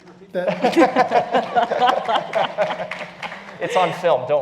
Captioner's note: laugh